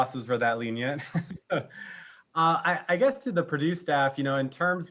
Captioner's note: laugh